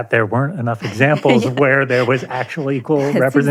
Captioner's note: laughs